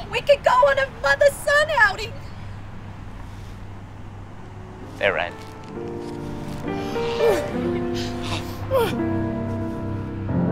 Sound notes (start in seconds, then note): 8.3 sighs of relief